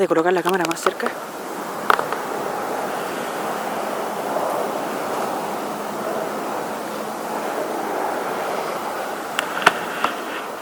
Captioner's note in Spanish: Arena bramando leve